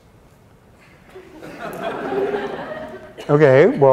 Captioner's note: laughter